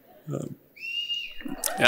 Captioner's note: whistles